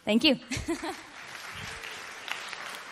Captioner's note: applause